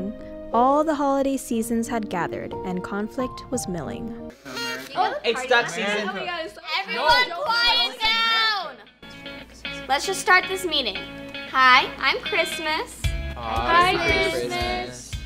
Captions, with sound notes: All the holiday seasons had gathered And conflict was milling *chattering* Everyone quiet down Let's just start this meeting Hi I'm Christmas Hi Christmas